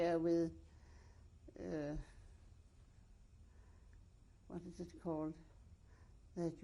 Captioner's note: pauses for 3 seconds